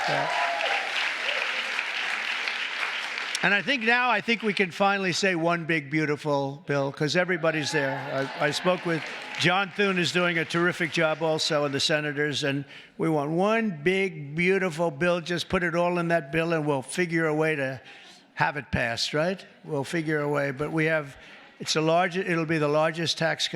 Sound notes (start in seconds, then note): 3.9 cheers and applause; 11.5 applause